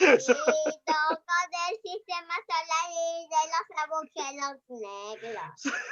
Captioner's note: Carlos's son talks in Spanish